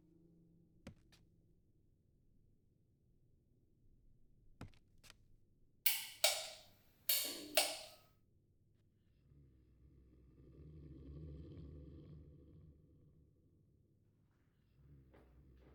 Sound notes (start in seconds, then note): 5.8 switch clicking